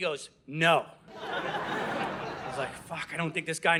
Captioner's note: audience laughing